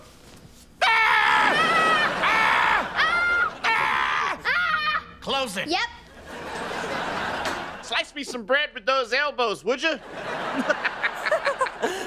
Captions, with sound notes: [screaming] - Close it. - Yep. Slice me some bread with those elbows, would ya? [laughing]